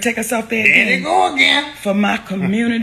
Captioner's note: laughs